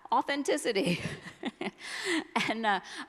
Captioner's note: laughs